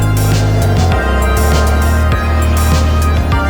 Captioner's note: engine Hum; synth music